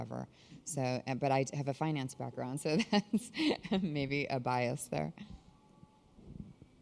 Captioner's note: laughter